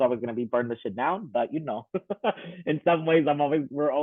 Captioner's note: laughing